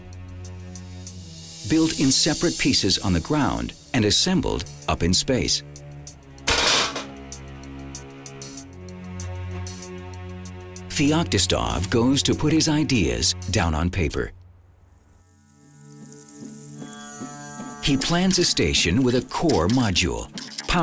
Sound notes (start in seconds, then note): 6.4 bangs; 15.2 mellow music